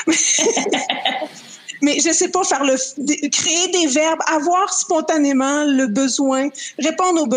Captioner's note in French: rires